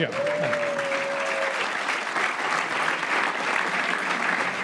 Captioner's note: crowd applauding